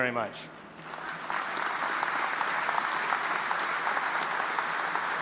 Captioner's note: audience applauding